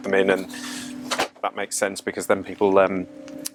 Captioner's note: door clicks